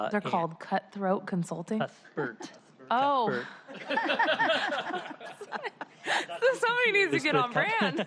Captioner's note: laughter